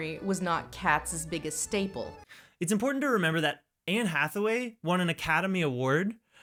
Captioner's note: none